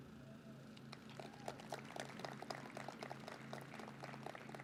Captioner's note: audience claps